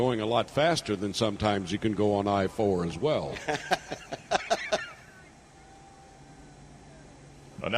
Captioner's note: laughter